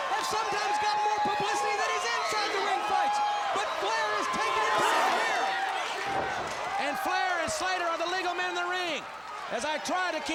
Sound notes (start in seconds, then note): 5.9 crowd cheering